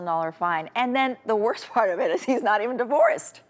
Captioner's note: chuckles